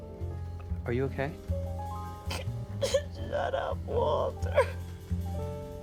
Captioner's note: sobs, sniffles